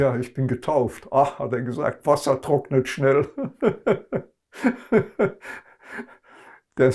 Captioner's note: laughing